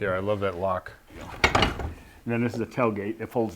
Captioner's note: doors clunking